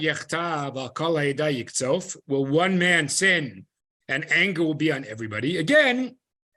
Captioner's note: Hebrew